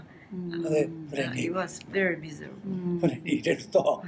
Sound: foreign language

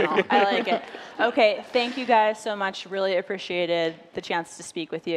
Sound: laughter

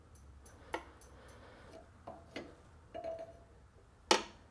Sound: wrench clanging

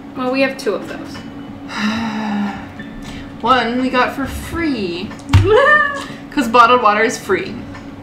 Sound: deep sigh

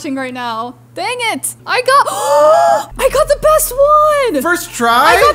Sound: gasps

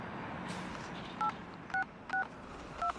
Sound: keypad beeping

